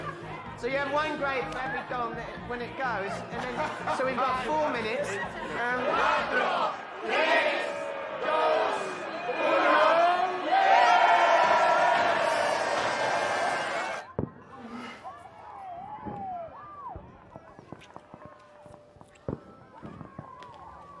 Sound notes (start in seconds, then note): 6.4 semua hitung dalam bahasa spanyol; 10.5 semua bersorak, peluit bertiup